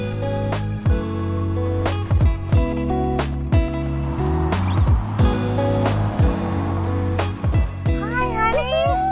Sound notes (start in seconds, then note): 0.1 footsteps crunching; 4.3 engines roaring